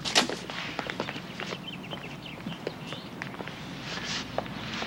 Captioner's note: birds chirping